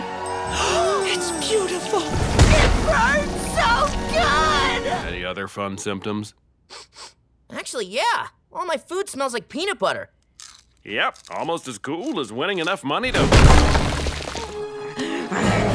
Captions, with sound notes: It's beautiful, It burns so good. Any other fun symptoms? [sniffing] Actually, yeah. All my food smells like peanut butter. Yep. Almost as cool as winning enough money to-